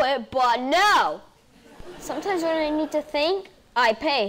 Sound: audience laughing

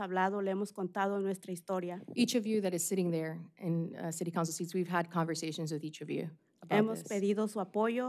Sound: speaking spanish

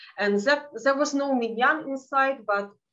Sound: speaking in Yiddish

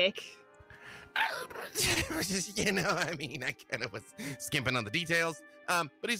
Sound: nervous laughter

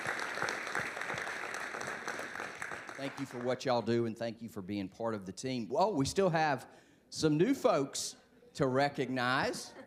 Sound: applause

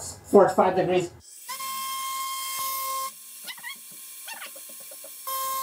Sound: CNC machine noise

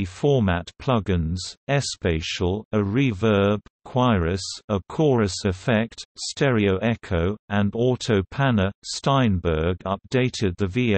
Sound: a chorus effect

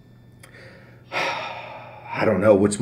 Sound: exhales

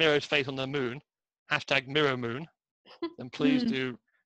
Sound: laughs

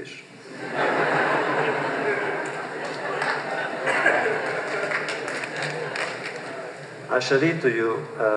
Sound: laughter

